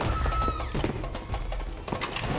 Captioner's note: gun firing; screaming; suspenseful music